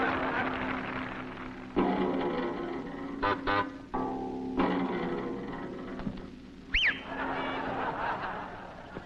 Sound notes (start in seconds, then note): 3.3 honks horn; 6.7 whistles